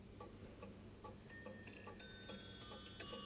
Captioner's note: clock chiming musically